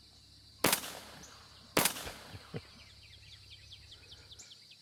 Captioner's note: gun firing